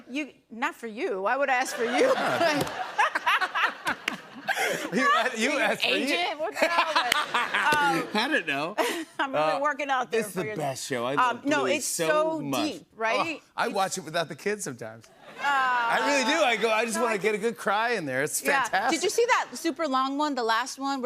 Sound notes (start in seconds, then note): 1.6 laughter; 15.1 laughter